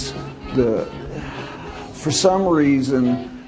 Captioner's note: sighs